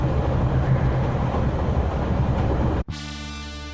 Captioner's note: none